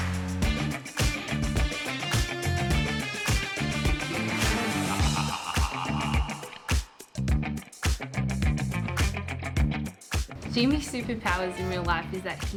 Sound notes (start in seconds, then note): 4.7 evil laugh